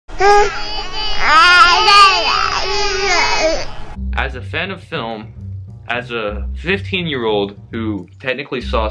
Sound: baby Crying Noises

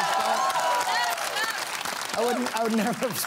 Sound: applause

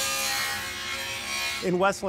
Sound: saw buzzing

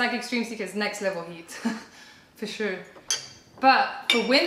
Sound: laughter

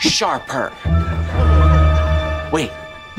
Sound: laughing

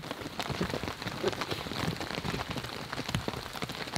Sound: rain pouring

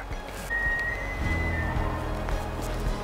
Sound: elk bugling

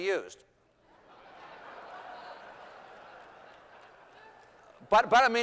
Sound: laughter

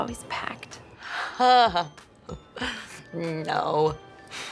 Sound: laughs

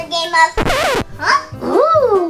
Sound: record scratched sound

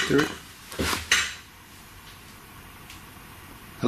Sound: tapping

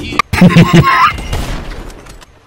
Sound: short Laughs; sniper Shot

